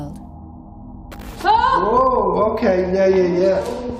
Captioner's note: shouts